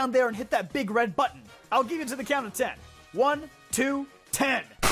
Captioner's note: gunshot